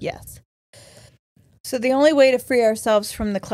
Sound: none

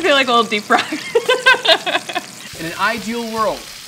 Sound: laughs

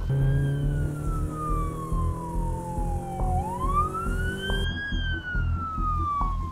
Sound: sirens

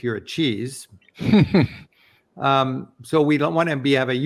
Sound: giggles

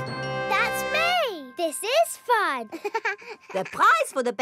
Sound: chuckles

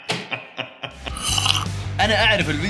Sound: sips

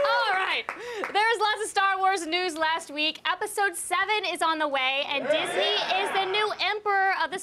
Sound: crowd chanting "a.t.n

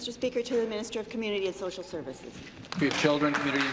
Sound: applause

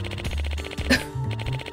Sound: scoffs

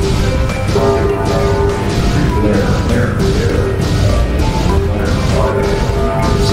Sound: distorted Announcement Chime

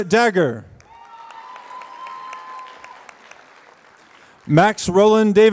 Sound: applause

